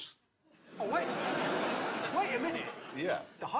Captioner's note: laughter